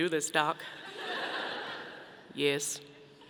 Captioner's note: audience laughing